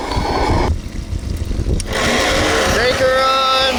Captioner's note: motor running